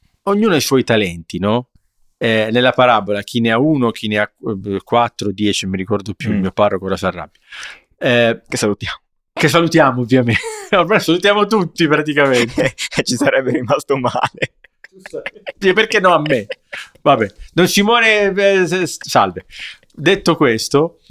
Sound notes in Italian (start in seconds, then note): 12.2 risate